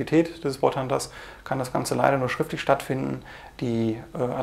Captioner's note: in german language